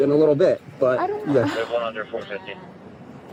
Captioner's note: radio chatter